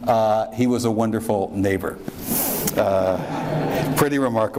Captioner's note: audience laughs